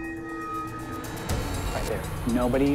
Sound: muffled voice

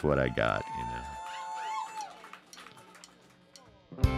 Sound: audience cheering; mid-tempo rock music

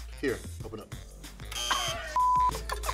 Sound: buzzer rings; beep

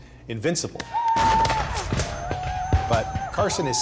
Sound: gunshots, whooping

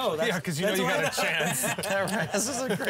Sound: laughing

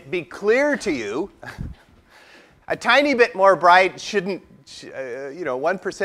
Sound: laugh

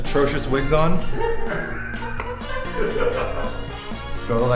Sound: crew laughing

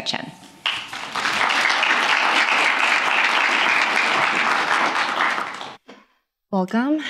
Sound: applause

